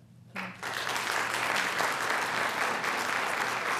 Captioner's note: applause